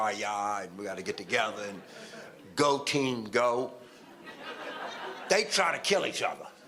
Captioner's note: audience laughter